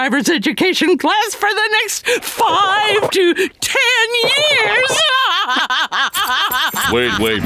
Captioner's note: laughing